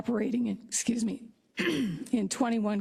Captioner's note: cough